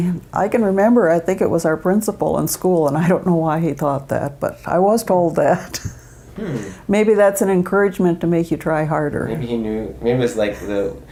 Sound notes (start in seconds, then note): 5.7 chuckles